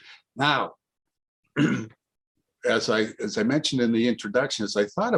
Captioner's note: clears throat